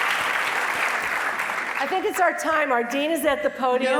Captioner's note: applause